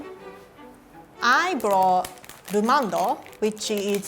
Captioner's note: classical music; speaking in foreign language